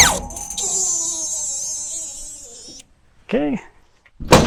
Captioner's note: machine whirring